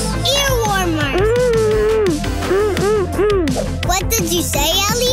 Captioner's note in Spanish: murmura